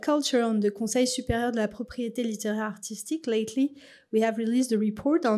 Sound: french

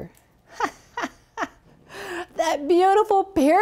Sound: laughs

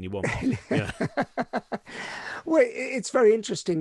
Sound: laughing

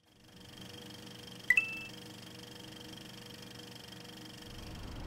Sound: projector whirring; 16-bit coin sound

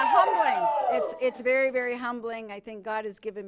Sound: cheers

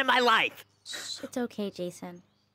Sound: sobs

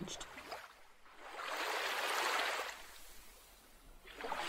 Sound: water sloshes

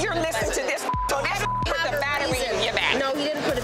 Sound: beep

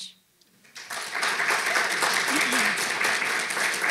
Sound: audience claps

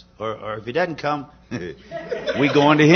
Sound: laughter

